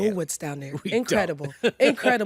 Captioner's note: laughs